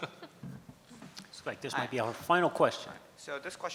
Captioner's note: laughs